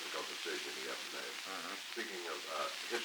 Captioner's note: Murrow, mumbling